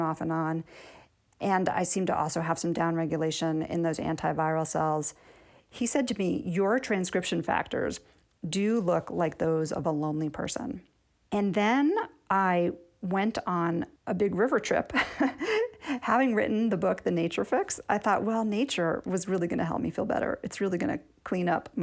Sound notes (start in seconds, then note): 14.9 laughter